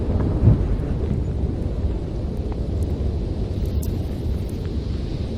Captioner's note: wind blowing